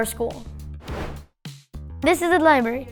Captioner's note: video whooshing